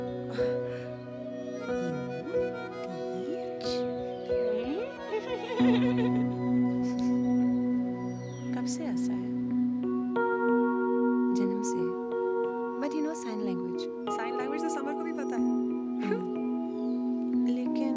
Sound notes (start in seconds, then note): 0.2 Chuckles; 4.5 Laughing